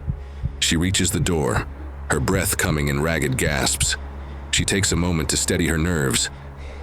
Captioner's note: her breath coming in ragged gasps